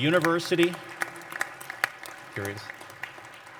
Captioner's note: applause